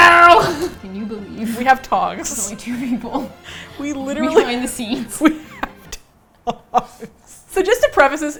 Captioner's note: laughs